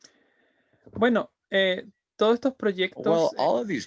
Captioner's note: speaking in Spanish